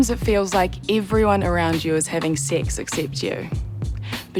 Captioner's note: chuckles